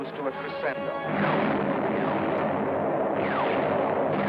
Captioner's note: artillery firing